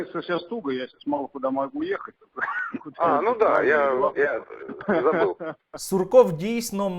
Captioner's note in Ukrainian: сміється